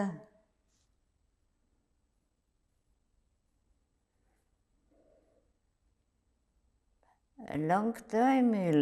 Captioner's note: pauses 6 seconds